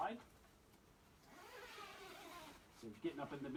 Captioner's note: zipper zips